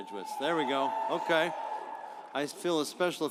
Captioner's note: audience applauds